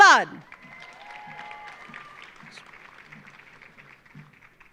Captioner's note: audience applauding